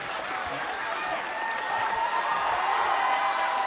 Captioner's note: cheers and applause